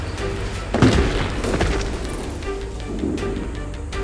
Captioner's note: men groaning; thudding